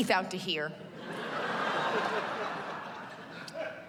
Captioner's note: laughter